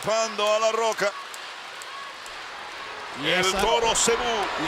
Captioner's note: applause